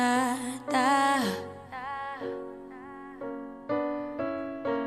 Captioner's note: echoing; rhythmic piano chords